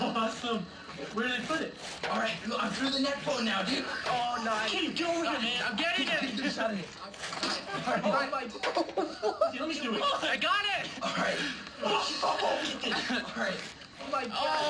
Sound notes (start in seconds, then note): 7.3 laughter and chattering; 13.1 laughs